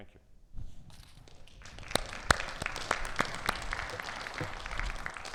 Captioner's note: audience applauds